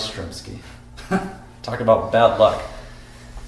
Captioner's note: chuckles